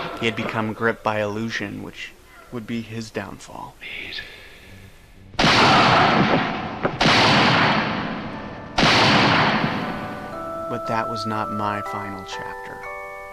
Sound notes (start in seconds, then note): 5.6 Wilfred grunts; 5.6 gunshot fires; 8.7 gunshot firing